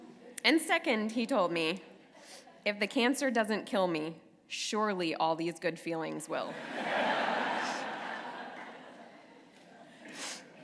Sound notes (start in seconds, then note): 6.5 laughter